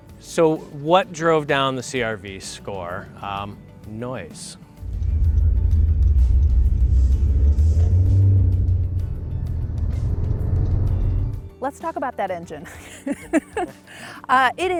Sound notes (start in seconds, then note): 4.8 wind noise hissing; 12.7 chuckles